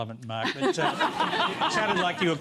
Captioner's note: laughter